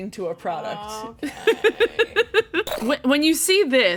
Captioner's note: laughing